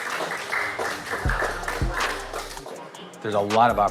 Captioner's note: applause